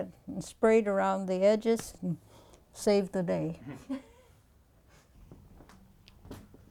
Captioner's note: laughter